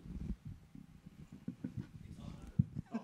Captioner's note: microphone clunks; table rumbles